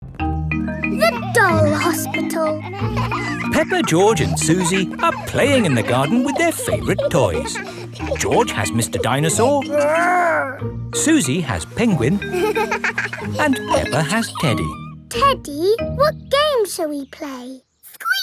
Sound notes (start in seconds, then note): 2.9 kids laughing; 11.1 giggles